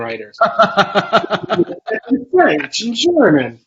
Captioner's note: laughs